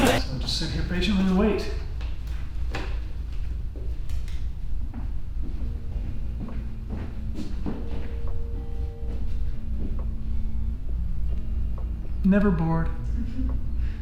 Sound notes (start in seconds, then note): 4.8 footsteps in the background